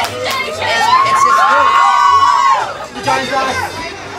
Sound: crowd cheers

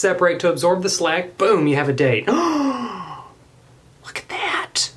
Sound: gasps

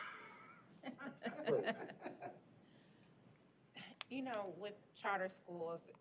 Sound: laughter

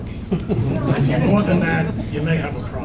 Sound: audience laughing

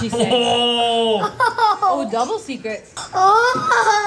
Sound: laughs

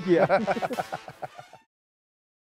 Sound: laugh

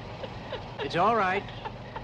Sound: Betty weeps

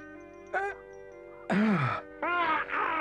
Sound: rat groans

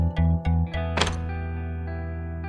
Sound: closet door closes

